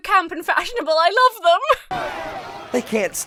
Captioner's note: laughs gleefully